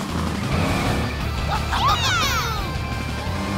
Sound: cheering

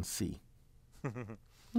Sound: laugh

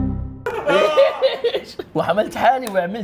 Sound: laughs awkwardly

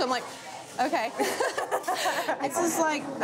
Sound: laughing

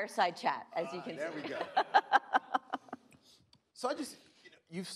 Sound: laughing

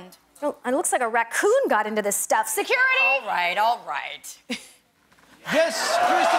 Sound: cheers and applause

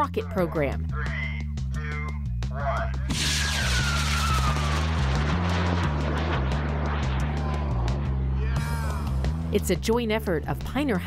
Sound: rocket launches

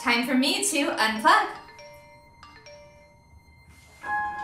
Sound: phone chimes

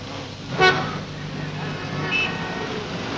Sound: horn Honking

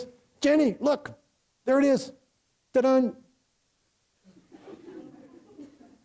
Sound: audience laughs

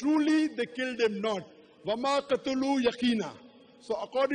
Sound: arabic phrase

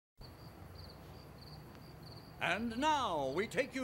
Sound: crickets chirp

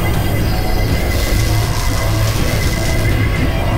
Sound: buzzing

